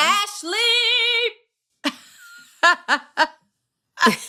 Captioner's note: laughter